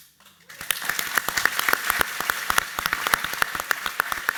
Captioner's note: audience applauds